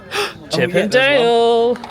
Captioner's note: gasps